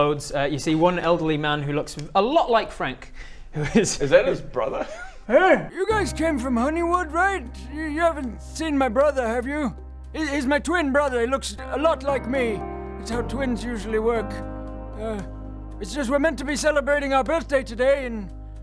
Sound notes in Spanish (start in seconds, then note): 3.4 risa